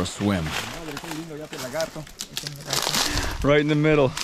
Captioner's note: speaking in foreign language